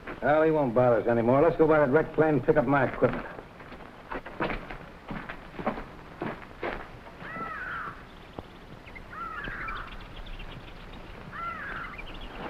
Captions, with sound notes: - Now he won't bother us anymore. Let's go by that wrecked plane, pick up my equipment. (footsteps rustling) (animals chattering)